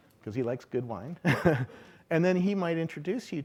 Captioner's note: laughing